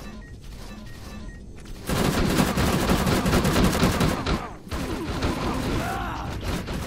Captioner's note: aliens grunting